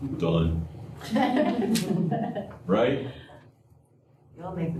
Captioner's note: laughter